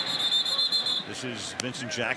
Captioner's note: whistle